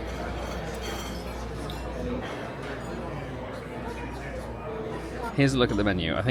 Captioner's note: ambient restaurant noise